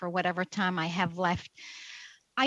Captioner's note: speaking French